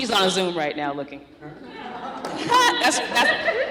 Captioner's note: laughter